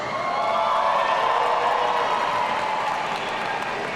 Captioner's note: audience cheering